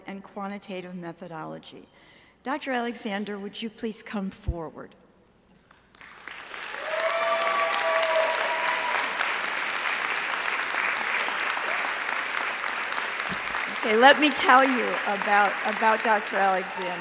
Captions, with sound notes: and Quantitative Methodology. Dr. Alexander would you please come forward. (audience cheering and applauding) Okay, let me tell you about Dr. Alexander.